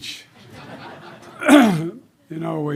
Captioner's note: laughter